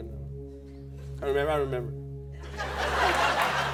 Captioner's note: laughter